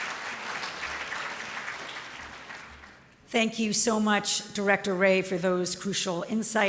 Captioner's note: applause